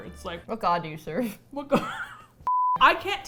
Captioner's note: laughs